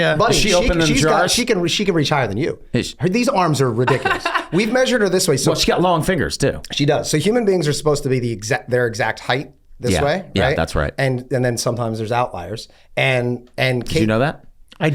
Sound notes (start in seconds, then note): 3.8 laughs